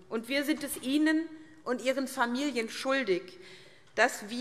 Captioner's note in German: none